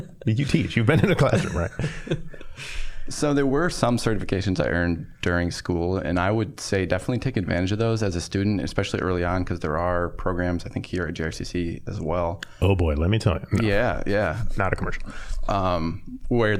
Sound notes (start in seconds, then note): 0.0 both laughing